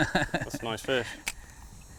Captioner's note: laughs